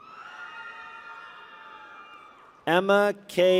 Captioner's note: people cheer